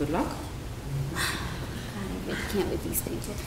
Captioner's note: sighs